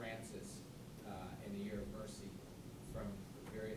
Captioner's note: voiceover